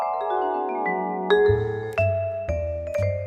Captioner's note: none